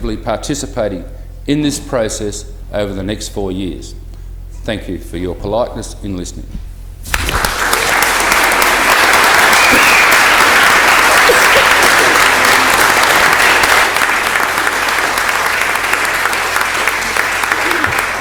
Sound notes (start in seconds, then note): 9.8 applause